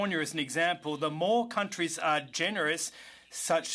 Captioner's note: speaking French